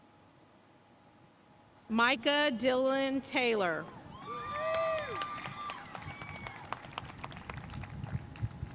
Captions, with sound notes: Micah Dylan Taylor. (audience cheering and applauding)